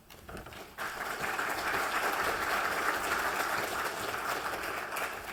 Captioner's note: applause